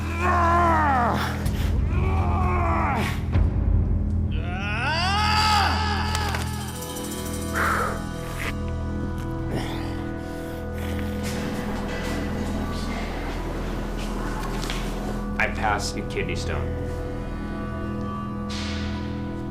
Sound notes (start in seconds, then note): 0.1 grunting; 6.8 exhales deeply